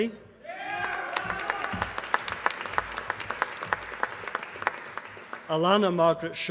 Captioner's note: applause